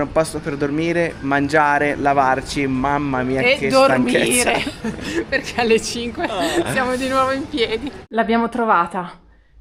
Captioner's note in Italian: risate